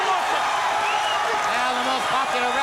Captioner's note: crowd cheering